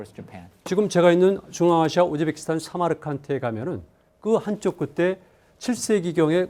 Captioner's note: speaking in Korean